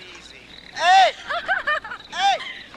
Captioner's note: girl laughing